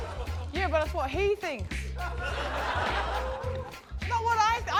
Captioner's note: laughter